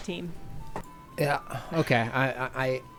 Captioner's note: pat